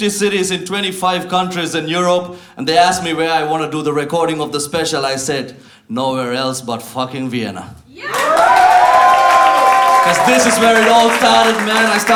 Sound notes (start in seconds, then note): 7.9 cheering